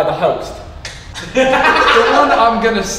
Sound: group laughs

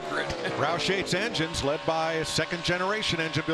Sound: laughs

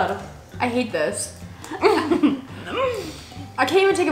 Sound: laughs

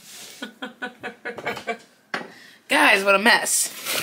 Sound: laughs

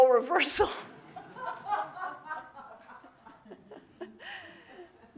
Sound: audience laughing

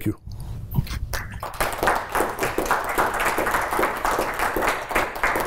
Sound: applause

